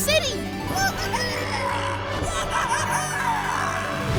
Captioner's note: squawking